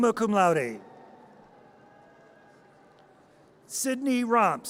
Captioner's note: audience cheers